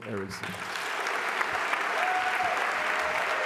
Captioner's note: applause